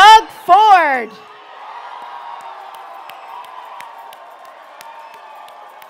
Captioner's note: audience cheering